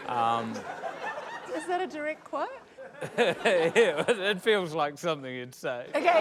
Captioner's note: chortles; laughter